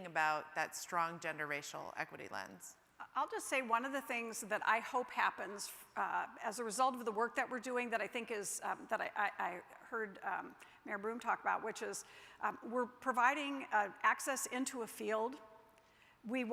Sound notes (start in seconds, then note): none